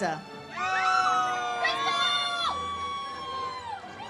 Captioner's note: audience cheers